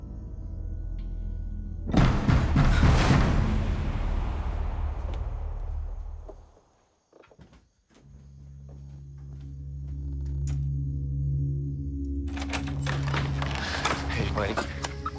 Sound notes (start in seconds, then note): 2.0 banging on door